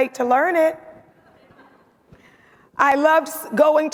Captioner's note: audience laughs